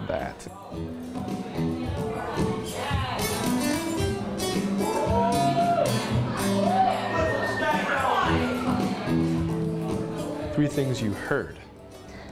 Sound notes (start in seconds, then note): 0.9 funky band music; 1.1 chattering